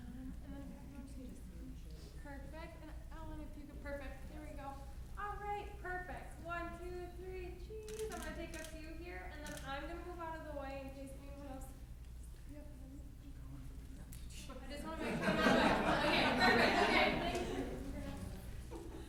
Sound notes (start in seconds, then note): 14.9 laughing